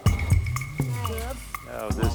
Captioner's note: wheel creaking